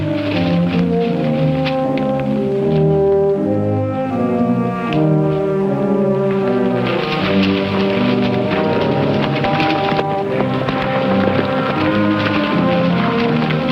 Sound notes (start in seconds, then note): 9.1 horses cantering